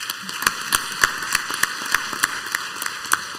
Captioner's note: clapping